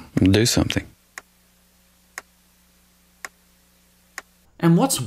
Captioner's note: clock ticking